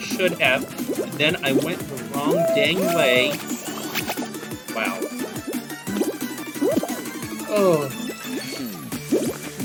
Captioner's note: groan